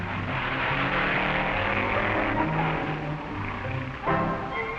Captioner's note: hot rod revving